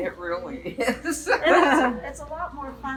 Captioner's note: women laugh